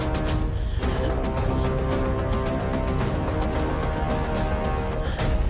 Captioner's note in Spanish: Sollozos